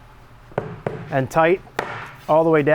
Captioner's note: wood thudding